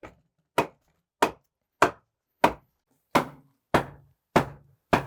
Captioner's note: hammer knocking